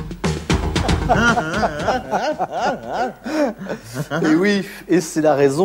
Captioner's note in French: rires niais